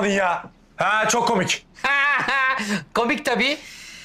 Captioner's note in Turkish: Gülme sesi